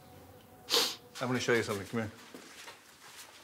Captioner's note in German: englisch